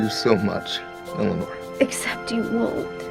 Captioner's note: voice breaking